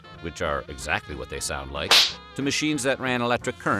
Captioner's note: slapping sound